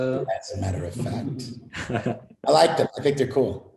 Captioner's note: laughter